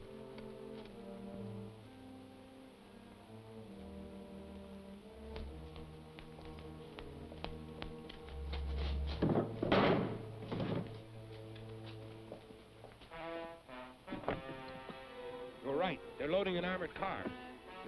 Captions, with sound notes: (box thumps) (dramatic orchestral music) - You were right. They're loading an armored car.